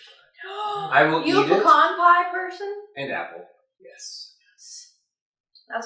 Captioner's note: gasp